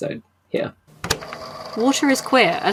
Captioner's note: tape recorder clicks on